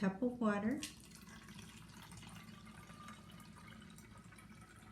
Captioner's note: water pouring